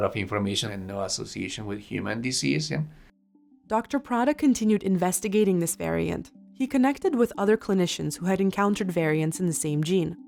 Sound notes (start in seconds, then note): 2.8 voiceover